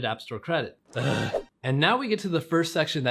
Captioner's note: grunting